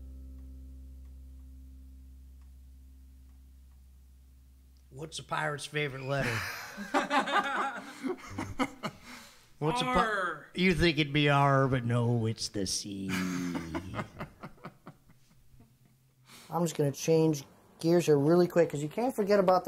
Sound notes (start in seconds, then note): 16.5 laughs